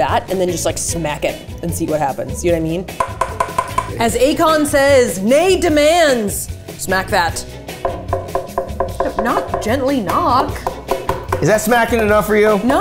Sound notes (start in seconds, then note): 3.0 spoon clacking; 7.8 spoon clacking; 10.4 hand slapping